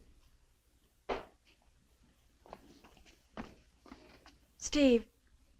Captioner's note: door thudding